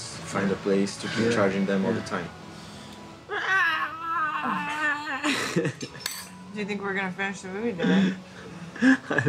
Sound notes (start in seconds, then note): 3.3 laughing